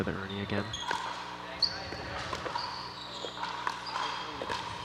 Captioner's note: ball bouncing